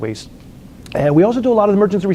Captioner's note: lip smacks